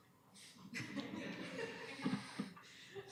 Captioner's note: laughter